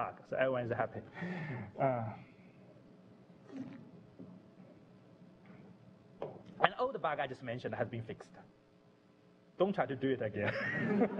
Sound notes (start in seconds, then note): 1.7 pause